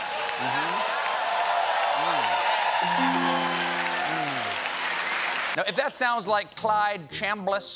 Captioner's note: cheers and applause